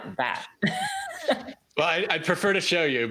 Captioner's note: laughs